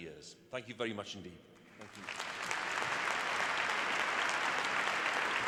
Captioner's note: applause